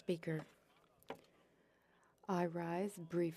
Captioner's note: speaking French